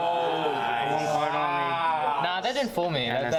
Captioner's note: astounded gasps from the crowd